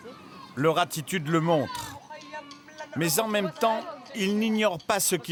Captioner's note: Hebrew spoken audio